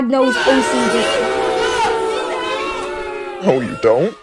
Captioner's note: audience jeers at POOKIE